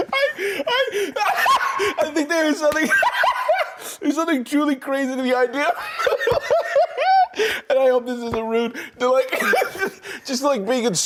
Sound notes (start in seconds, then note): 0.0 laughing heartily; 4.4 laughs; 9.2 laughs